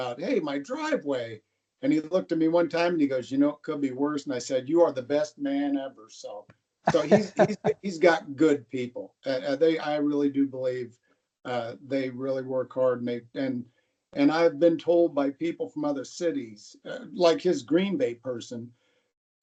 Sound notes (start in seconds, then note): 6.8 laughter